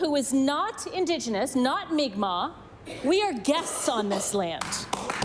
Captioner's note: applause